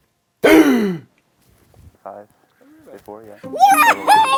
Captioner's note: gasps!